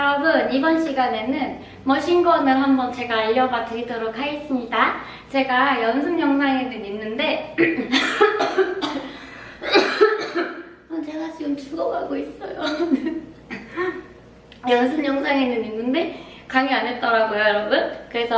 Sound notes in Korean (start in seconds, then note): 7.6 기침